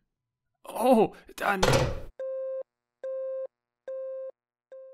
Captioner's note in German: tuuut tuuut